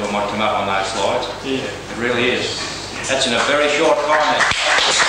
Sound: applause

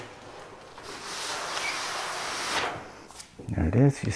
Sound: box sliding

